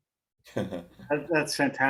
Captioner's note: chuckles